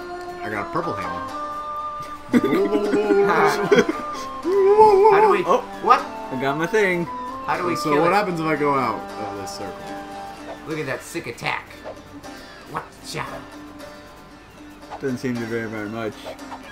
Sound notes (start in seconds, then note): 2.2 turkey blobleblobs